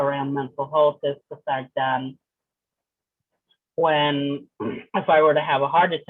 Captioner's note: clears throat